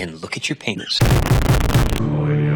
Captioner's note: distorted bassy sound